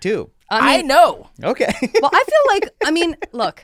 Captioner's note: laughs